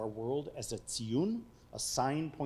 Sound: speaking foreign language

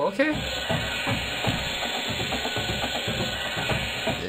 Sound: saws buzzing

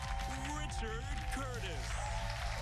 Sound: cheers and applause

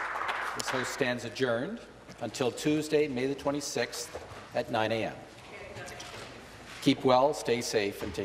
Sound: applause

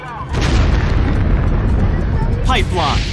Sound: explosion

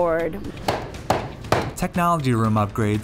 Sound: student knocking mallet

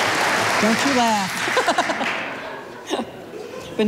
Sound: laughing

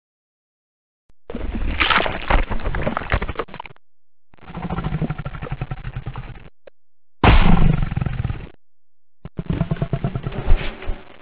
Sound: sound of a giant crab monster

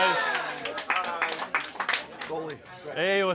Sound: people clapping

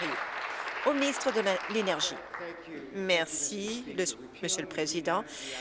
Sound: applause

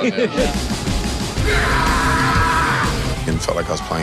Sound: yelling

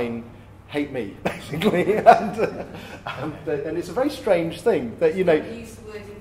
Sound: laughs

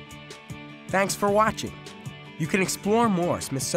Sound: voiceover

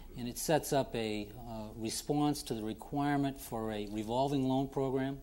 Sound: none

